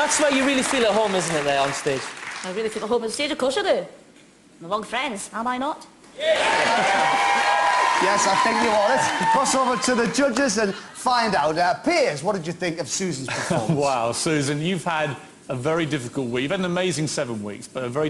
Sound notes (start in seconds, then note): 6.2 yes, Cheering